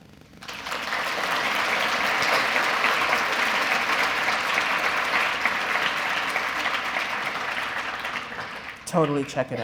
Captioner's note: applause